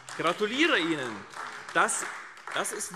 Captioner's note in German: Beifall AfD